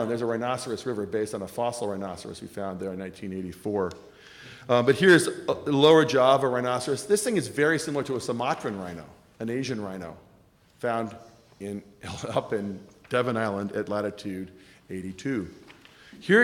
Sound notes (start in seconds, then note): none